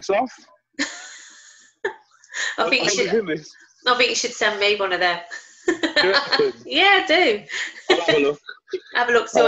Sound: laughter

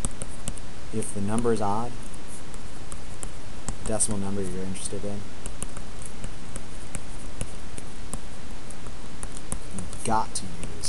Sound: typing

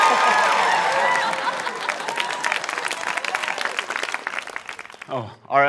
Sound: laughter; cheering

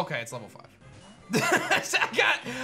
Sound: laughs

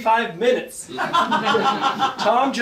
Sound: audience laughing

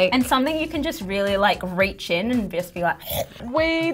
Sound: chomping

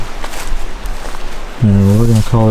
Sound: water flowing

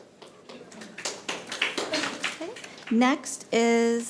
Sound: audience applauding

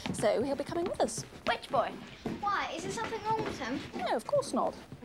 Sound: none

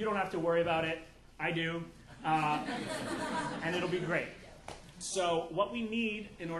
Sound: audience laughing

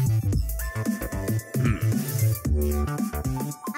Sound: grunts

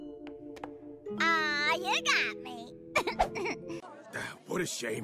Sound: chuckles

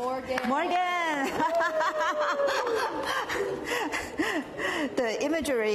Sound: applause

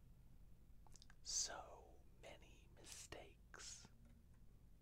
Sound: whispers

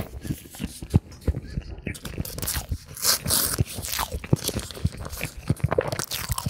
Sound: laughs

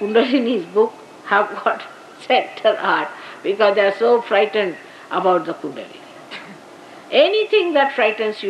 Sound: Shri Mataji laughing

